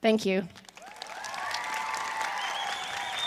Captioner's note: applause